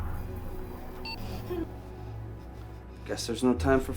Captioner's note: phone beeping